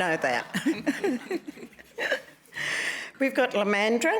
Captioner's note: laughter